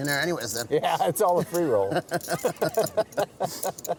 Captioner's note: laughing; men laughing